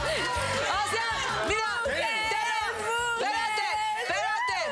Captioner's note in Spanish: Carcajadas